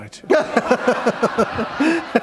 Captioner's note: laughter